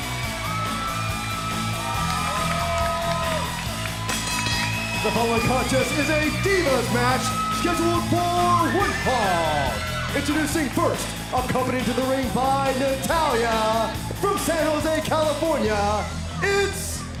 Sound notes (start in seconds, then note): 0.3 crowd cheering; 5.6 bell ringing